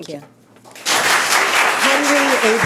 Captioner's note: applauding